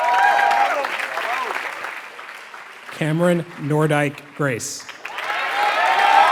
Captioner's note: applause